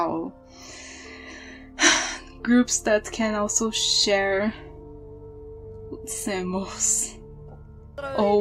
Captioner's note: sigh